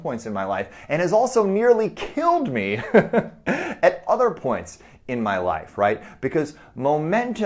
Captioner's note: chuckles